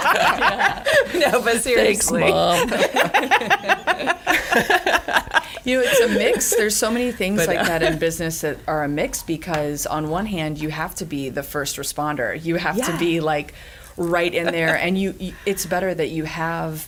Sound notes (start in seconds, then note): 0.0 laughing; 3.2 laughing